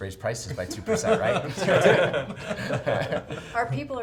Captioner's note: laughing